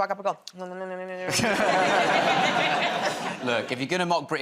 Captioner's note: laughter